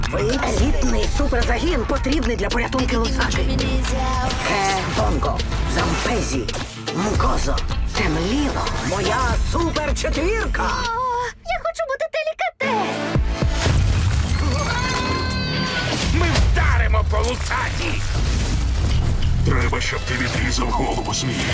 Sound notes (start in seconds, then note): 13.5 loud crash; 14.4 all scream; 17.9 electricity crackling